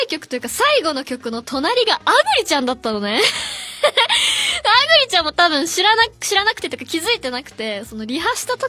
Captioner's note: laughs